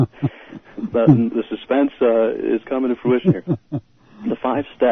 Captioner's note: laughter